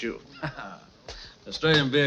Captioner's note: laughing